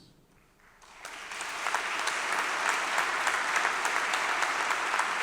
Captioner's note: audience clapping